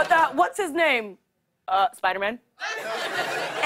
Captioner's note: laughter